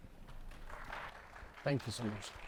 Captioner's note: attendees applauding